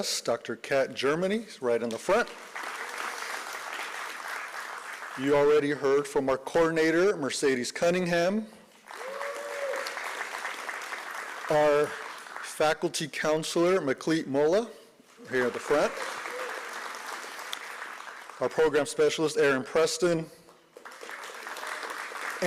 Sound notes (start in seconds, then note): 2.0 applause; 8.8 applause; 15.2 applause